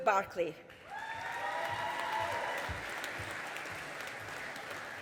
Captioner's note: audience applauding